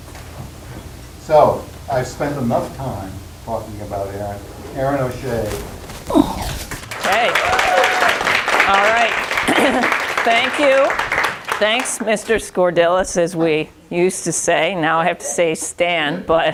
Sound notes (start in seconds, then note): 6.8 applause; 15.8 chuckling